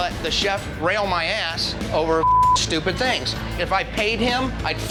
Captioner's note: beep